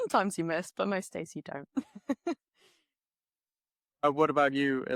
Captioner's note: laughs